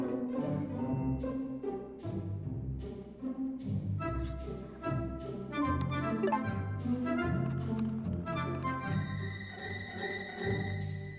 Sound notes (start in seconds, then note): 6.4 delete sound; 9.8 scary music